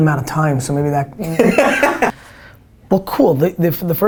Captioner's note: laughter